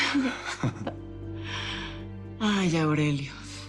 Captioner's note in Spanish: Risas